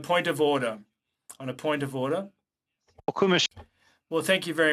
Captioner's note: speaking French